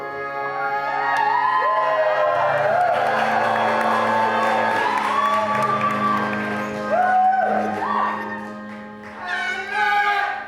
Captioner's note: audience cheers